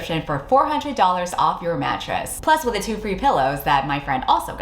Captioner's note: none